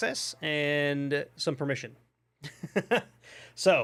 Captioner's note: laughs